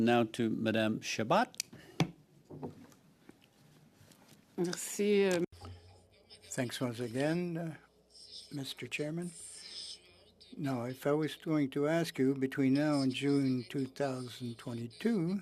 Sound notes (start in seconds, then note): 8.3 speaking French